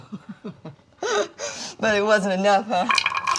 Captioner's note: Dory laughs